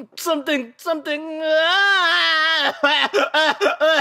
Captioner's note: Albert coughs, and coughs